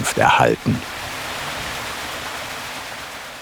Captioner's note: sound of water splashing